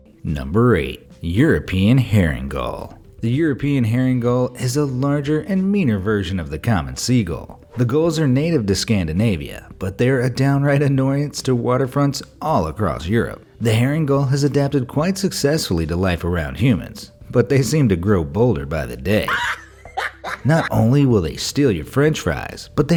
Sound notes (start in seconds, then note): 19.2 laughing